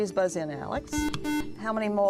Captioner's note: buzzer